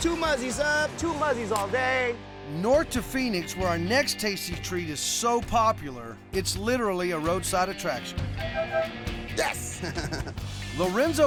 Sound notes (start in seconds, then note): 8.3 honking; 9.5 chuckling